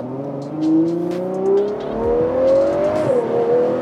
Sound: engine revving

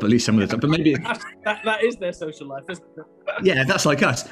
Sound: laughter

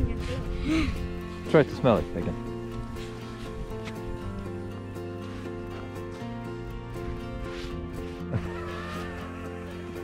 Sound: laughs

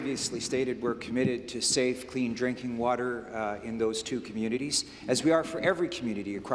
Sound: applause

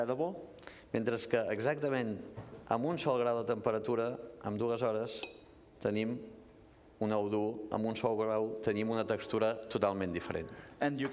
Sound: speaking catalan

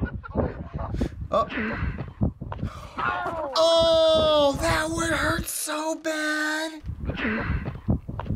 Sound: man 2 laughs; gasps

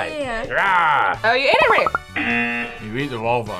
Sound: buzzer

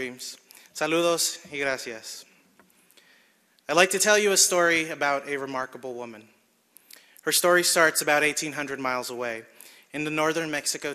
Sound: speaking spanish

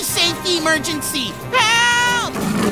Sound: roars

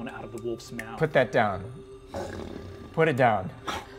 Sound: growls

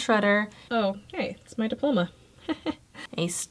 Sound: laughs

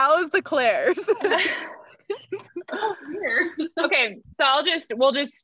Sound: all laughing

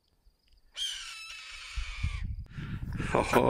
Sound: eagle screech

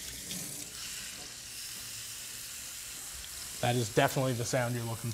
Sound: meat sizzling

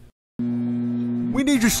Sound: microwave humming

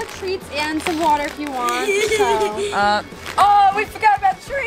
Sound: chuckles

